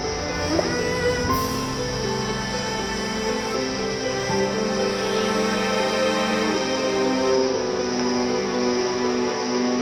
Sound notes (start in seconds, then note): 0.0 gentle breeze rustling through the leaves of the trees